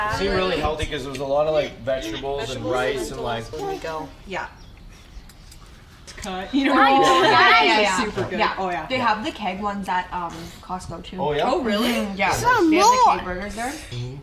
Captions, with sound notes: - Seem really healthy cuz there was a lot of like vegetables and rice and like... - You know, super good. - Oh yeah. - They have the keg ones at Costco too. - Oh, really? [baby talking]